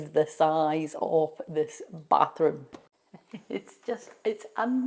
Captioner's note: chuckles